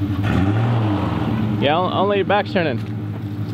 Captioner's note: engine revs